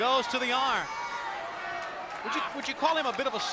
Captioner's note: spectators cheering